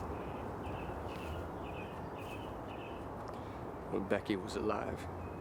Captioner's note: birds chirping